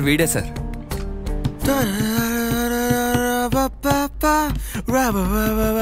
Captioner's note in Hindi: गुनगुनाते हुए